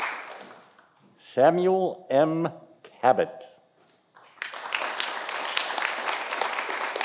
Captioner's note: audience applauding